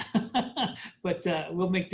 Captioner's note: laughs